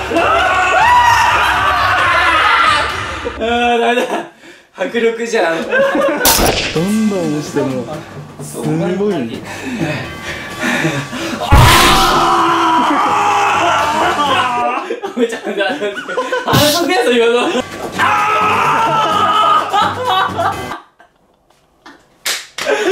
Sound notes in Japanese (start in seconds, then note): 9.4 呼吸音; 13.9 笑い; 18.9 笑い